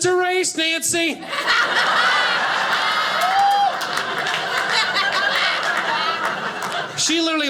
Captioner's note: audience laughing